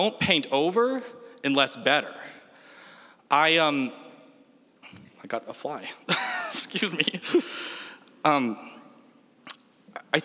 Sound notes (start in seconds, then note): 6.5 laughs